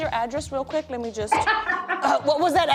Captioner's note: laughs